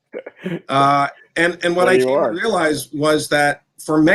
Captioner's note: laughs